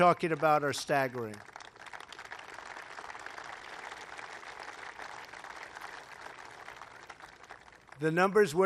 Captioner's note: applause